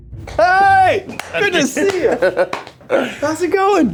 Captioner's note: hands clap